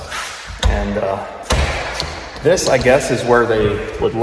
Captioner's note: door thudding